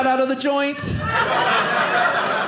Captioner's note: audience laughing